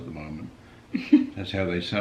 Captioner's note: laughing